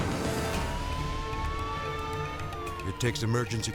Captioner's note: siren blaring